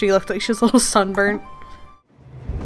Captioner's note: laughs